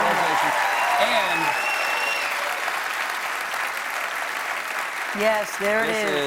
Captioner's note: cheers and applause